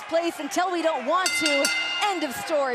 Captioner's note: bell chimes